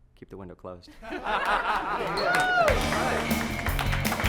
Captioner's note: all laughing; exciting rock music